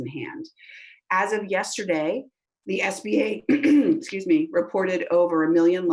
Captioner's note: clears throat